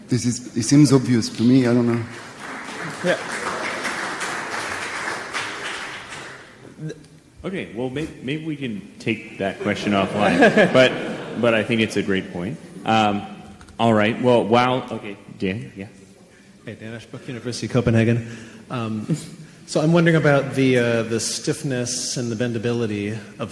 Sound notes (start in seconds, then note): 1.6 laughter and applause